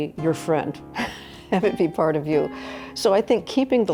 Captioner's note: chuckles